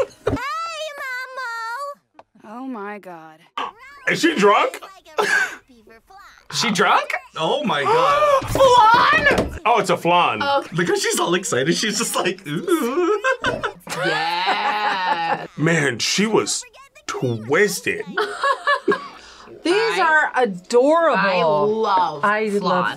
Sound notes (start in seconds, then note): 7.8 gasps; 11.7 laughs; 18.4 laughs